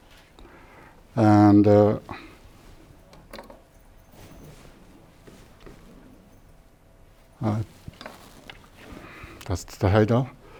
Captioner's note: opening laptop